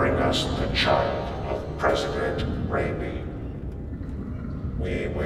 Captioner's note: none